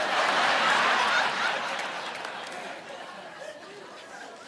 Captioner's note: audience laughing